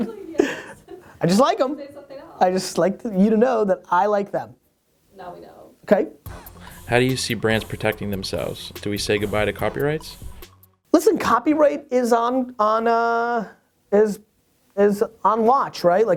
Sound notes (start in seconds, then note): 7.0 voiceover